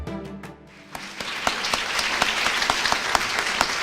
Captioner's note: applause